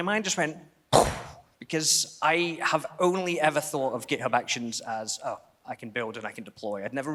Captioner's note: imitates explosion